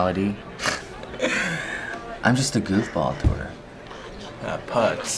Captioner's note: laugh